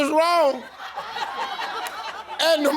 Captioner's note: audience laughing